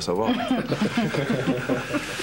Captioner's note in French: Rires